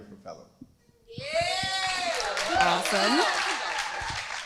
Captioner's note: crowd applauding